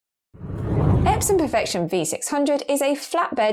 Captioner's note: video effect whooshes